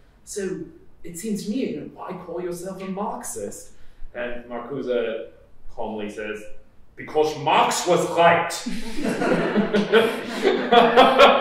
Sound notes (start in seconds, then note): 5.7 in put-on accent; 8.6 laughter